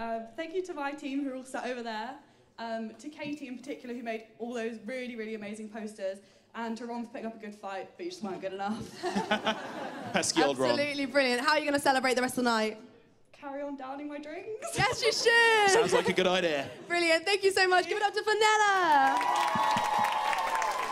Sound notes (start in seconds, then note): 8.8 laughter